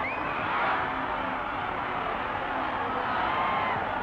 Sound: crowd cheers

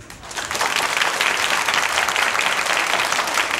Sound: audience claps

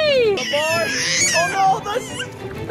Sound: squeals

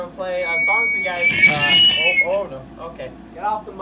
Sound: awkward stammering; mic feedback; awkward stammering

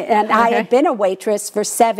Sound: laughs

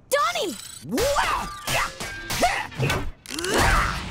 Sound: grunting

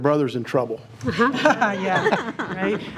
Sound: trustees chuckling

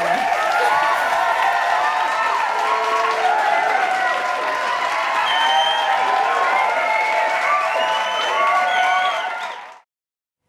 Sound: applause

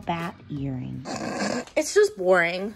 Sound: snickers

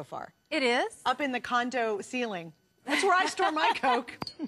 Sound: laughter

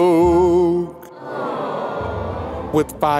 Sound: crowd

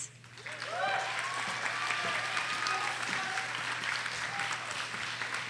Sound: audience cheers and applauds

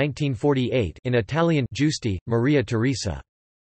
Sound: in Italian

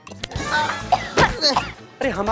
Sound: coughing

